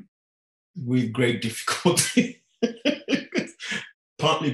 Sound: laughing

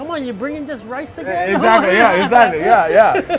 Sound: laughs

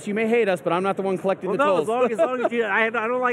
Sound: laughs

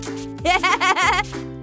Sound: laughs

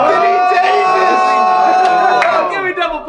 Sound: hand clap

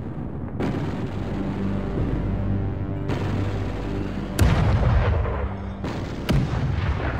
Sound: dramatic music; explosions boom

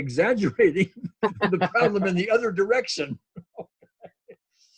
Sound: laughs

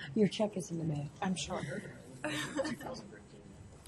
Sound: voiceover

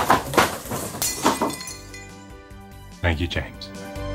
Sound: banging; glass breaking

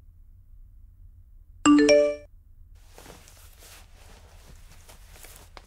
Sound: cell phone chimes

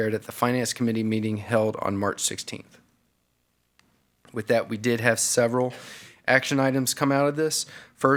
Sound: none

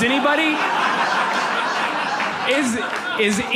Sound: audience laughs

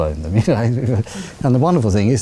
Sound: laughs

